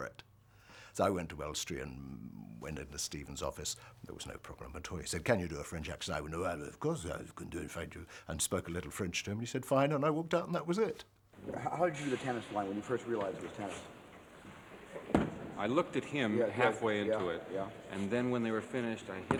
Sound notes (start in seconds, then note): 5.7 thick French accent; 13.1 thud